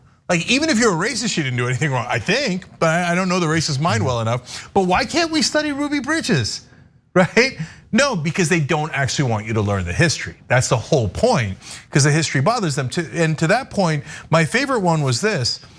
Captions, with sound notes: even if you're racist she didn't do anything wrong, I think. But I don't know the racist mind well enough, but why can't we study Ruby Bridges, right? [LAUGH] No, because they don't actually want you to learn the history. That's the whole point, because the history bothers them too. And to that point, my favorite one was this.